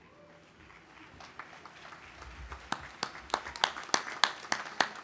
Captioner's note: audience applauding